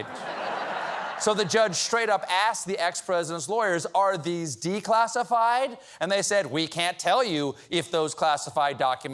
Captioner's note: laughter